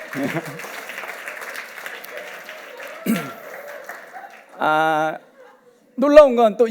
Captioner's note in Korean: 박수와 환호